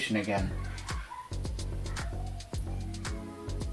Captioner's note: kids Laughing